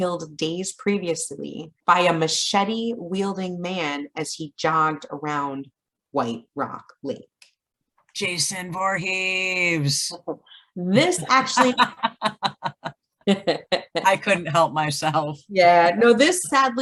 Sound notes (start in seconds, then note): 11.0 laughs